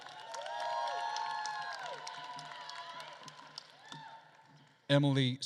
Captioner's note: attendees cheering and applauding